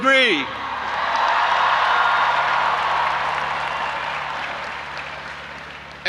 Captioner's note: audience applauding and cheering